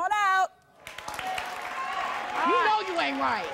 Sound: cheers

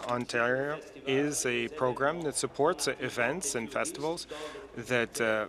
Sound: speaking in French

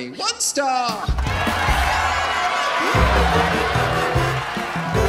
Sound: audience laughing

